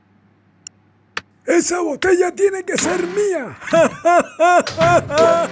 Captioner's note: evil laughter